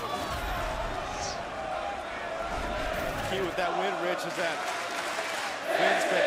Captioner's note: crowd chatter